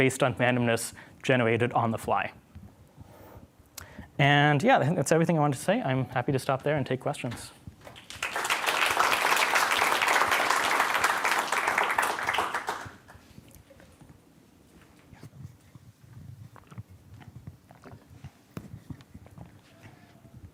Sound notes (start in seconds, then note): 7.8 applause